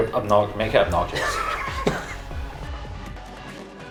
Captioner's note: both laugh; steady techno music